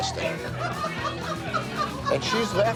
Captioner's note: owner laughing